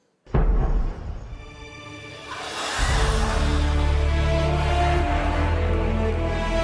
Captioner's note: cannon fire